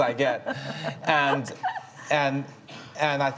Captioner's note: chuckles